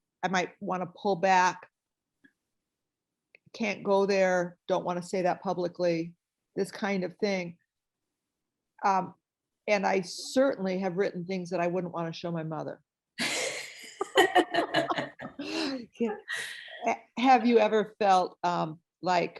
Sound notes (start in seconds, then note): 13.8 laughter